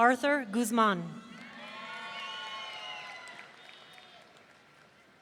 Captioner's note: audience cheering